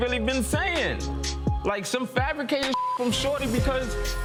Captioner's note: beep